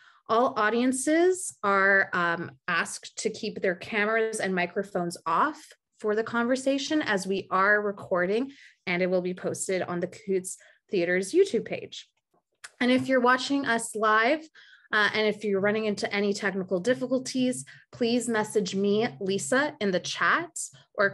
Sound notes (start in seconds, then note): none